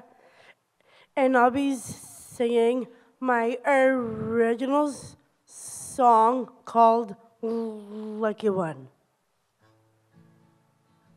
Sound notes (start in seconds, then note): none